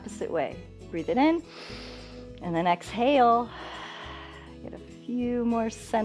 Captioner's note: inhales; exhales